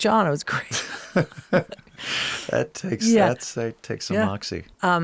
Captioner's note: both laughing